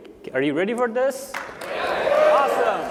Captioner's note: applause